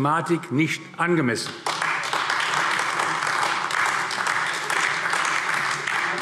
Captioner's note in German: Beifall AfD